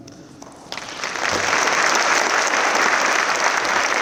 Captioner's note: audience applauds